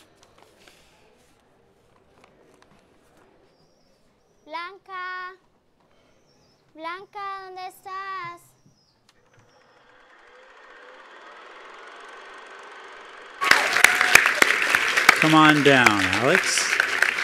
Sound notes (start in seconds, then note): 7.7 speaking in foreign language; 13.3 attendees applauding